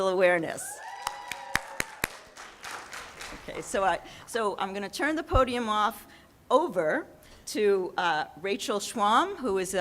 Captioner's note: audience cheers; clapping